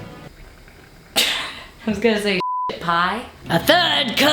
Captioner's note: laughs